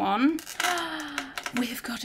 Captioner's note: gasps